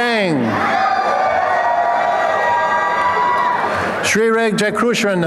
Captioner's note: applause and cheering